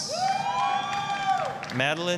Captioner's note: applause, cheering